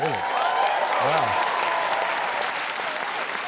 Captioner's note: cheering, applause